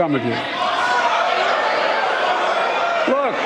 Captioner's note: shouting